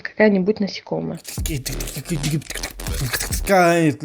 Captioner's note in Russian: битбокс